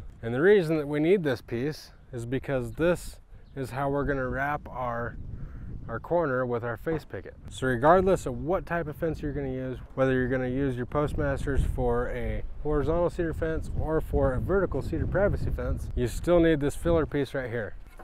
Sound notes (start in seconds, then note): none